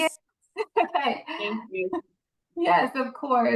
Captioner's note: laughs